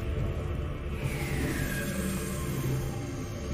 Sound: dramatic music; lift going SHEEEEOOOOOOOWW

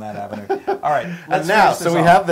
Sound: laugh

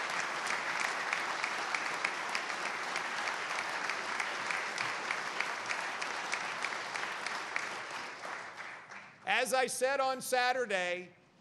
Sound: applause

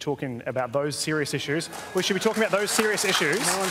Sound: jeering and scattered applause

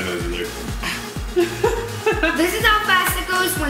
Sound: laughing

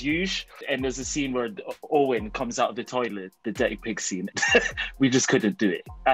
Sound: laughs

